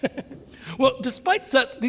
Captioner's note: laughs